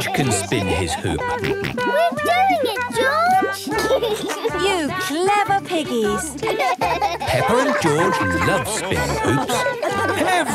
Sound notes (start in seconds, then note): 4.5 laughs; 6.3 both laugh